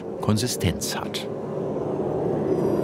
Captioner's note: hissing